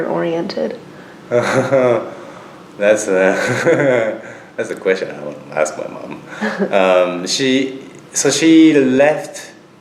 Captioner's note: laughs; laughs